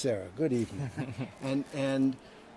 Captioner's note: chuckles